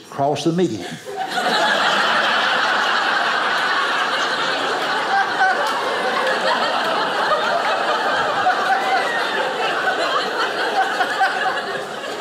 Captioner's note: audience laughing